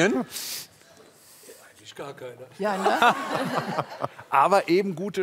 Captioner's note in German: Lachen